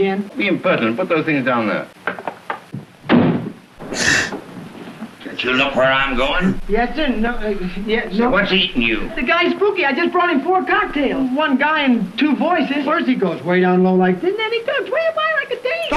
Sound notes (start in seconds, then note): 7.2 stammering